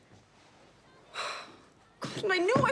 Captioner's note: sighs